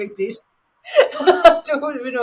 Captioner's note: laughing